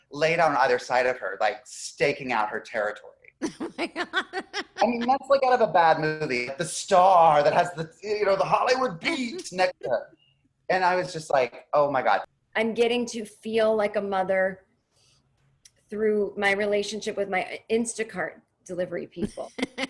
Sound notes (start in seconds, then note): 3.4 laughing; 19.7 laughing